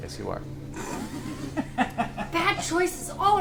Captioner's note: all laugh